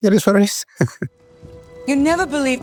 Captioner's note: laughs